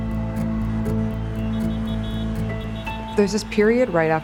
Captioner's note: crowd cheering, horns honking